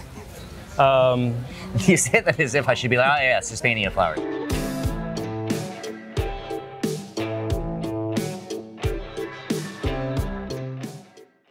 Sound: laughing

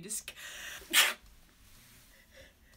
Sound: sneezes

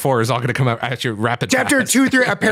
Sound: laughs

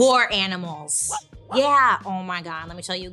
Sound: dog barks

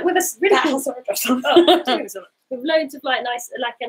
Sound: laughing

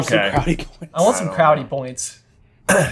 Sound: laughing

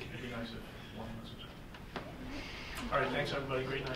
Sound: murmuring

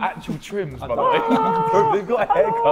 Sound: Sidemen laughing

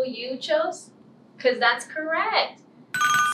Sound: ringing bell

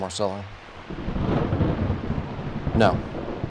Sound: thunder rumbles

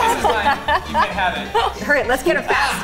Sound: laughing

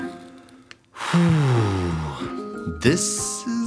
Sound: sighs

